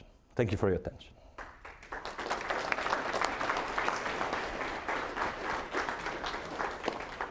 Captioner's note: applause